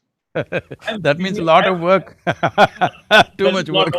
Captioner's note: laughs